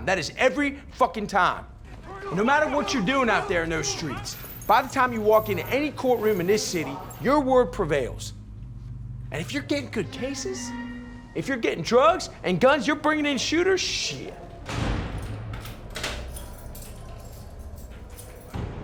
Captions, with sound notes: That is every fucking time. No matter what you doin' out there in those streets. By the time you walk into any courtroom in this city, your word prevails. And if you're gettin' good cases? If you're gettin' drugs and guns, you're bringin' in shooters? Shit. (jail door slams) (keys jingle)